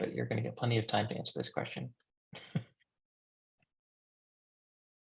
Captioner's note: chuckles